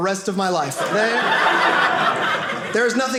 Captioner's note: audience laughing